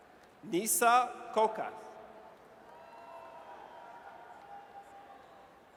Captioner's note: audience cheers